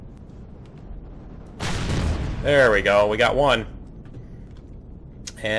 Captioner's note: explosion; rocket fire